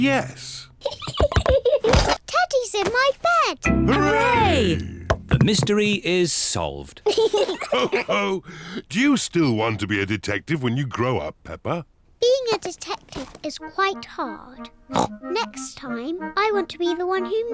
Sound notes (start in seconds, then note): 5.1 all laugh